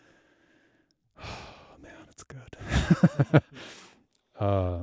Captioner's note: laugh